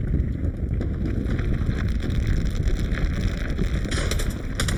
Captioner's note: ground cracking; guns banging